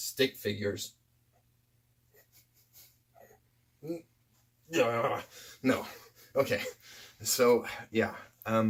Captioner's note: grunting and struggling noises are audible